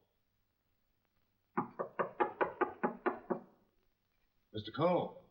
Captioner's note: knocking on door